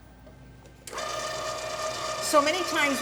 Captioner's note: machine whirring